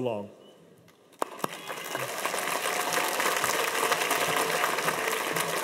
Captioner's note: cheers and applause